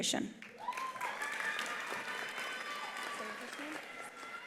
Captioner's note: attendees applauding; attendees cheering